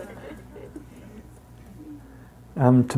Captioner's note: participants laughing